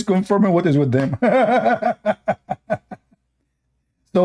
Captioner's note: Ketawa